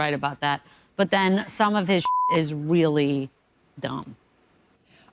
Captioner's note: beep